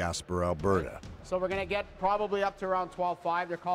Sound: voiceover

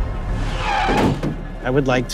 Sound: tires screech

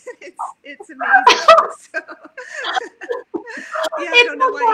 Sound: laughs

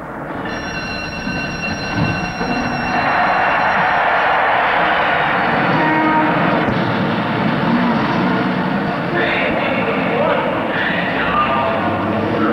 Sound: A bell rings and sounds of traffic are heard

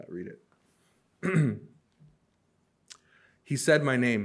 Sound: clears throat

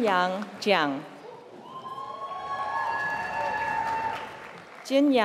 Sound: applause

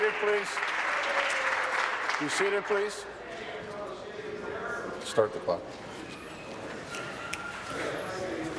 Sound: applause

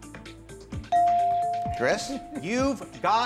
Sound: suspenseful music; bell dings

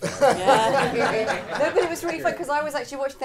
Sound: audience laughing

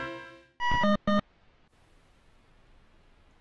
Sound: quirky interlude; game blooping; silence

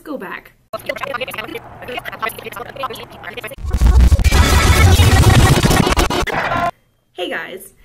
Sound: backwards video sounds

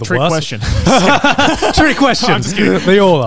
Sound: laugh

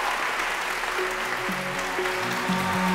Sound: applause

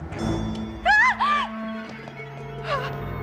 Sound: screams

